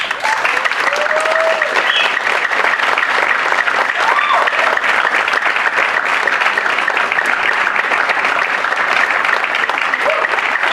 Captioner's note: applause